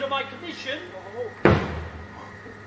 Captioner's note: staff hits ground